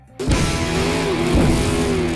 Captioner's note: vroom vroom